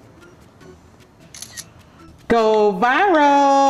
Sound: camera clicks

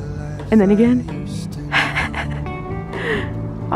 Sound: giggles

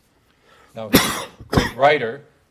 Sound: coughing

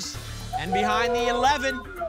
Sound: cheering

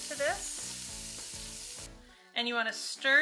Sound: onions sizzling

